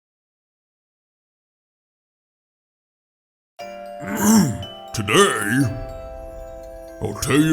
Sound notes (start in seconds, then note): 4.0 clears throat